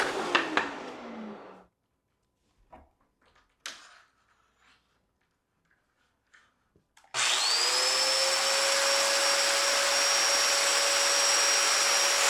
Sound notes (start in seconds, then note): 3.7 tool clicking; 7.1 tool whirring